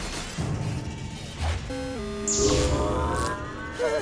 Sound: beeping

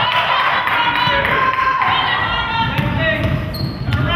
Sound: spectator claps

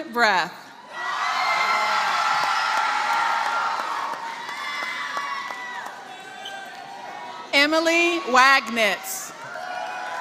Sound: applause; applause; applause

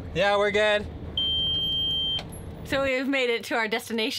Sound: boat beeping

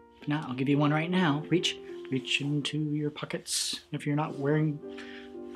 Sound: none

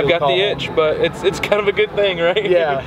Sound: chuckles

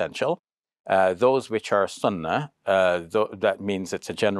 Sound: speaks Arabic

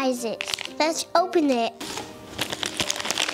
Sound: crinkles

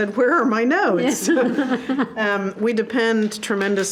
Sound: board members laugh

